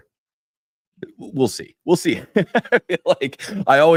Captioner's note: laughter